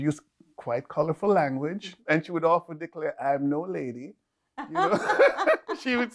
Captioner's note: laughing